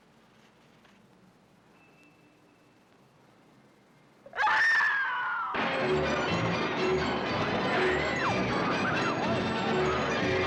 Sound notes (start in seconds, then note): 4.3 woman screams; 5.5 jaunty carnival music; 5.6 riders squealing